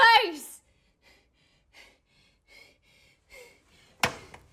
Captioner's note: panting